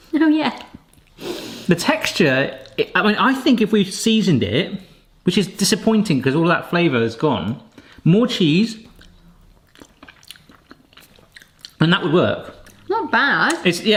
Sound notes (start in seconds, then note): 8.8 chewing